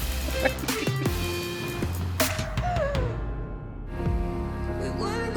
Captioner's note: laughs; soft music